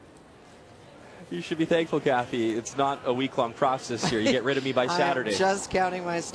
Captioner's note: laughter